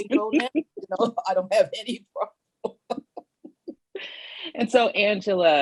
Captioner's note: laughs